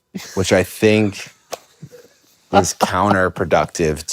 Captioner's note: Finn laughs